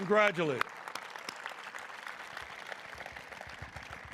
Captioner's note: all applauding